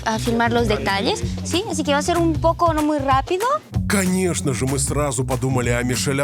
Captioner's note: speaking in Spanish